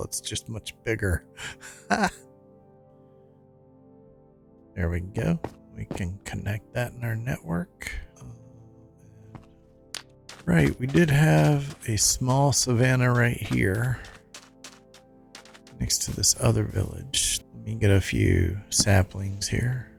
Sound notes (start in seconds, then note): 1.8 laughs